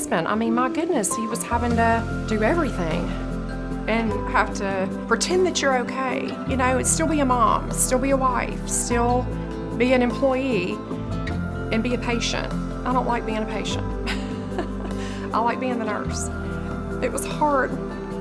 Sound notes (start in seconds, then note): 14.1 chuckles